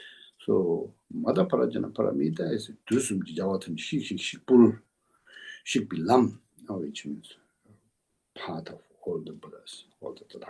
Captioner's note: tibetan